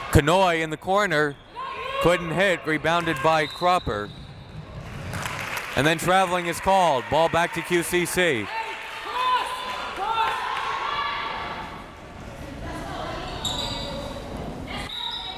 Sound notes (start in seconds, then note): 3.4 whistle tweeting; 9.9 crowd members shouting